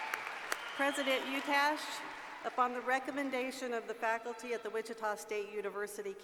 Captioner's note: applause